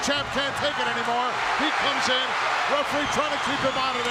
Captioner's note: audience cheering